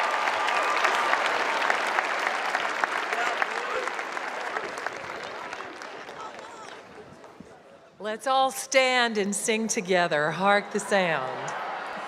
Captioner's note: applause